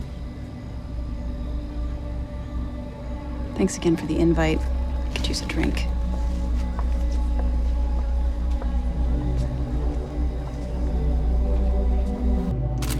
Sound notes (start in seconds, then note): 0.1 suspenseful music; 6.2 suspenseful music continues; 6.5 footstep tapping; 12.8 camera clicking; 12.8 suspenseful music continues